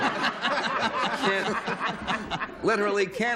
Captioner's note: laughs